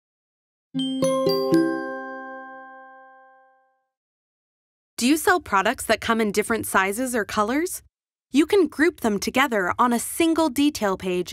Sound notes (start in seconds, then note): 0.8 bell chimes